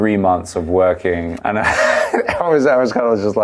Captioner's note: laughing